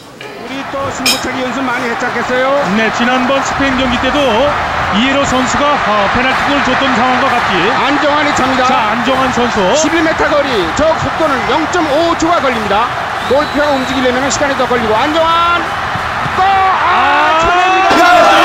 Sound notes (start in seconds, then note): 3.7 commentator's speaking